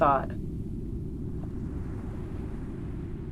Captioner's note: sound of waves